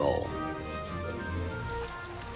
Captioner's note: water lapping